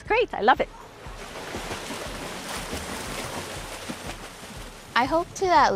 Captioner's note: water splashing